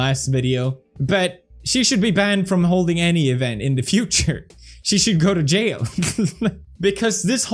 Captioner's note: laughs